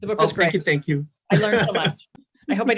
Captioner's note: laughs